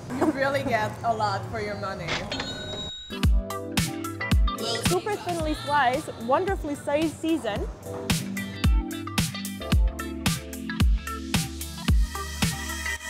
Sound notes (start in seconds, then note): 2.0 cash registered dings; 3.3 upbeat music; 8.5 upbeat music